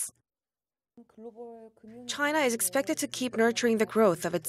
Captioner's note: Korean